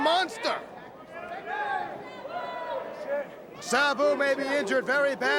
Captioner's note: crowd chatter